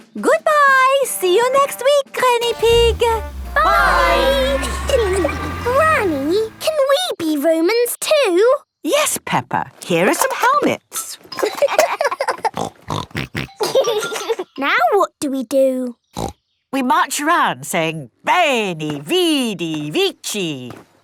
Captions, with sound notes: - Goodbye! See you next week, Granny Pig! - Bye! - Hee, hee! - Granny, can we be Romans too? - Yes, Peppa! Here are some helmets. (laughing) (snorting) - Now what do we do? Snort! - We march around saying, 'veni, vidi, vici.'